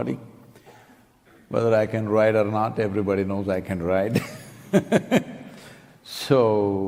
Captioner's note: laughs